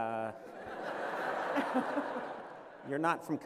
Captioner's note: laughter